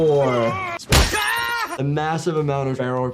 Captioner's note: man shrieks; hands smacks